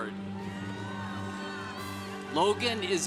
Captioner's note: congregation cheering